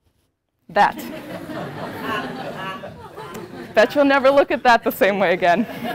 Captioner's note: laugh